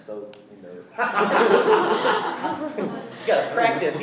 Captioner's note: laughing